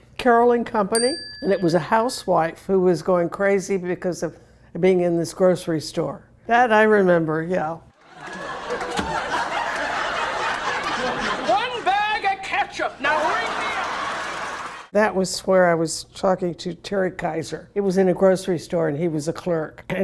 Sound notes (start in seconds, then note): 8.0 audience laughing